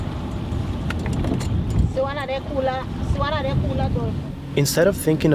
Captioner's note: speaking in foreign language